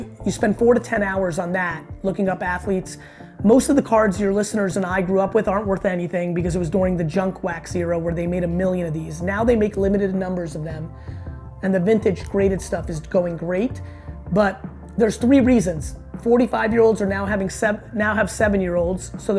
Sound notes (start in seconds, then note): none